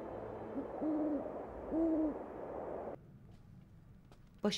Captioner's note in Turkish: Baykuş sesi